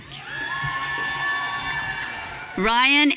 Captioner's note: audience cheering